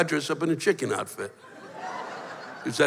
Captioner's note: laughter